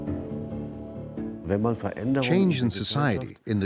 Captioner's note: speaking in German